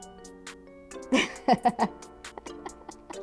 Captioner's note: laughs